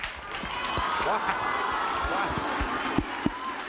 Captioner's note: audience vocalizing